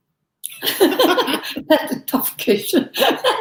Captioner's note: laughter